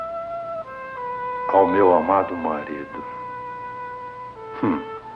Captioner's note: chuckles